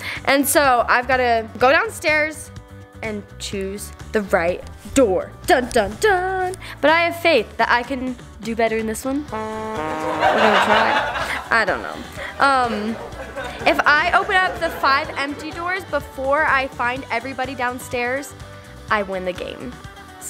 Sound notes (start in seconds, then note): 9.3 sad trombone womping; 9.8 crowd laughs